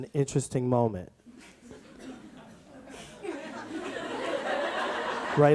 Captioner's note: audience laughs